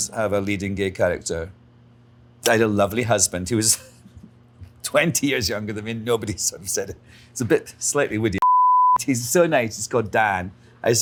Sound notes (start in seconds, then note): 8.4 beeps